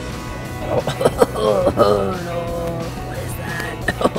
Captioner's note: coughing